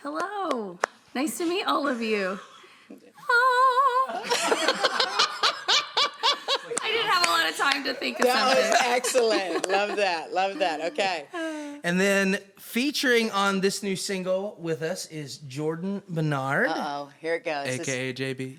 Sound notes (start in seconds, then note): 3.8 all chuckling